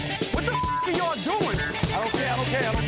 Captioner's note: beep